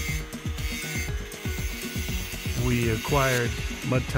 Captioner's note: electric saw whirring